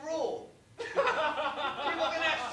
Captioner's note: laughter